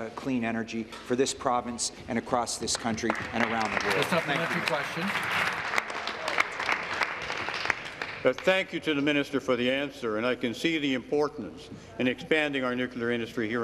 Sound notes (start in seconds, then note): 7.5 applause